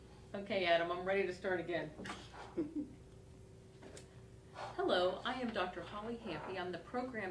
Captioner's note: laugh